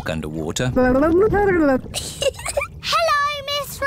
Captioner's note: gurgles; giggles